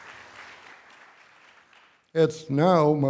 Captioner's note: applause